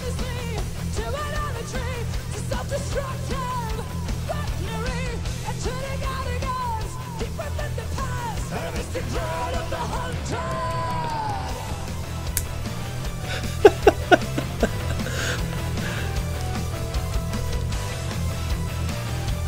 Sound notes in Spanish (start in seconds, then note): 13.2 Risas